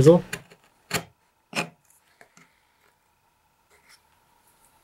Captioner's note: chisel scrapes